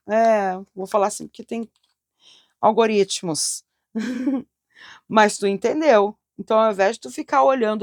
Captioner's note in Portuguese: risadas